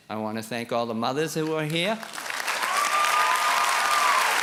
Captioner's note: applause